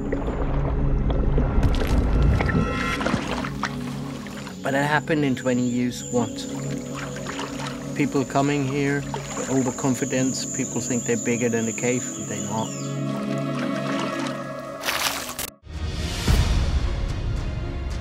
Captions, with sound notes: (water splashes) But it happened, in 20 years, once. People coming here, overconfidence. People think they're bigger than the cave. They're not. (water splashes)